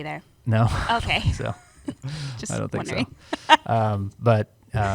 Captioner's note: chuckles; laughs